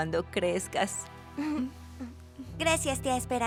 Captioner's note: Anna ríe